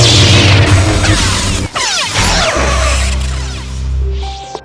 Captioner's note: fight sounds